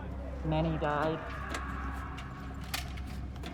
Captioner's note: echoing screams